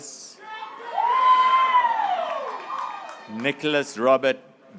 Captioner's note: graduates cheering